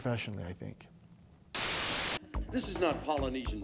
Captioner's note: static hissing